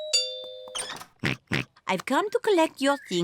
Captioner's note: oinks